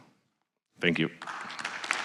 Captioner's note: applause